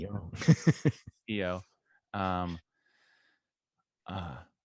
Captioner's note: laughs